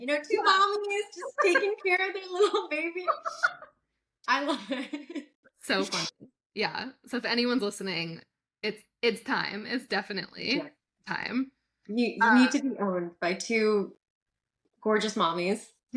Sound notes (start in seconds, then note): 4.9 laughs